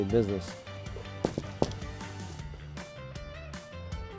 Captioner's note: hand knocking; upbeat music